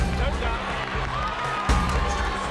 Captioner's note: crowd Roars